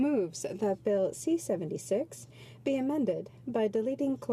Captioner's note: speaking French